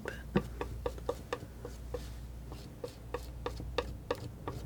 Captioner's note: tapping